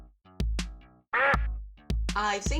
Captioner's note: quack